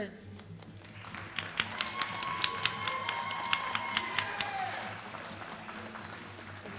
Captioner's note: all applauding and cheering